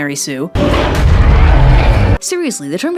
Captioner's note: sound of kaijus fighting